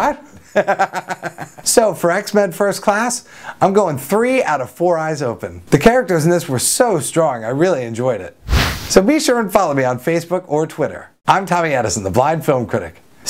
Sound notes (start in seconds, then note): 0.0 chuckles